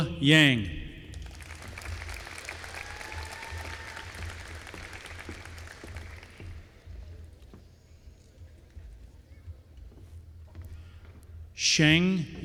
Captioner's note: applause